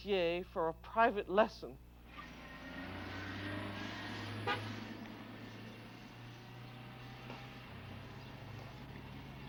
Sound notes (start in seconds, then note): 3.8 horn honks